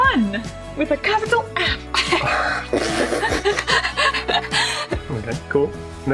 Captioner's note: embarrassed laughing